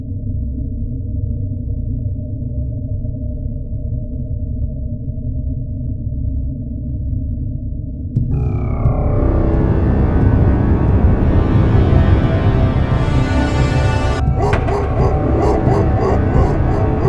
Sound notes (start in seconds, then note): 11.4 dogs barking